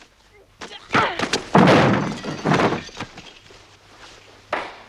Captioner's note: guard groans; Tracima grunts; Rothrar clapping